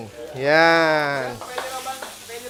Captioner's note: sizzles